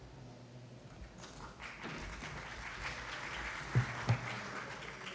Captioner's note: applause